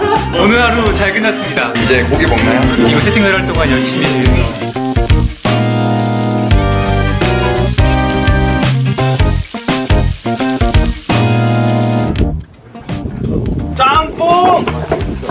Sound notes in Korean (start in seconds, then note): 4.3 고기 굽는 소리